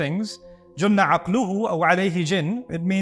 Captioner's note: Arabic